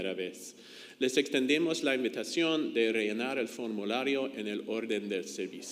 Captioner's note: speaks in foreign language